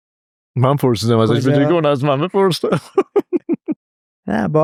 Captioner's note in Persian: خنده